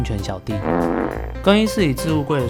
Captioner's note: farting rant sound effect